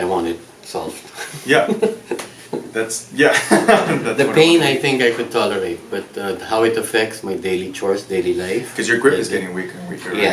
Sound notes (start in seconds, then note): 1.3 patient laughs; 3.3 doctor laughs